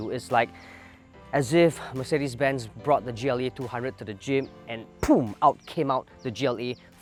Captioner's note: poof